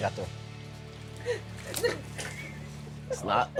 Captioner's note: laughter